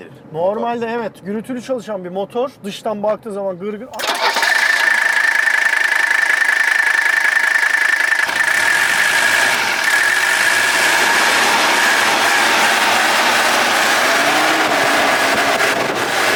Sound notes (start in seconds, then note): 3.9 engine working sound